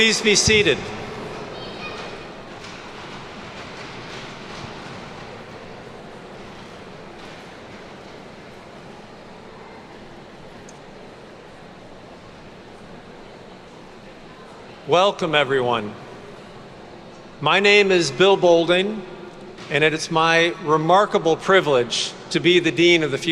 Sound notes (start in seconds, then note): 2.3 attendees chattering